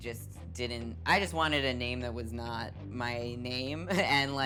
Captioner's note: laughing